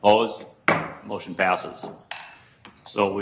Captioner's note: gavel bangs